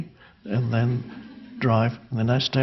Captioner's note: crowd laughing